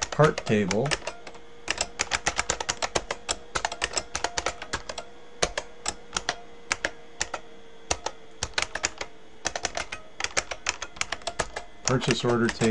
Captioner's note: typing